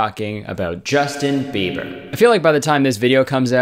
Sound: echo effect

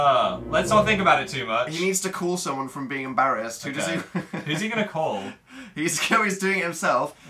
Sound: laughs

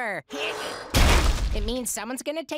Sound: loud crash

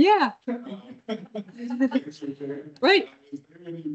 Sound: attendees laughing

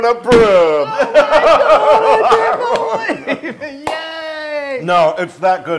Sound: laugh

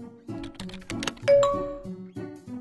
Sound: Messenger pings

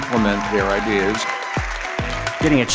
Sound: audience clapping and cheering

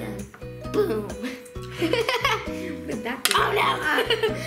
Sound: laughs

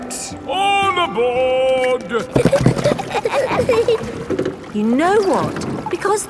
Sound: giggling

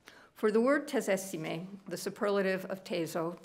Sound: speaking italian

